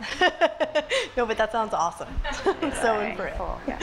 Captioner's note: laughs